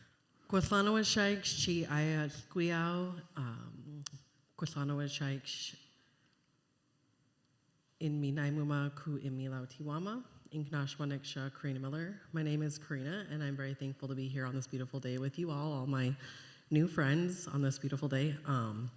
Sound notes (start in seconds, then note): 1.6 speaking Indigenous language